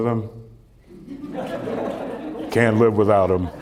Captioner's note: laughter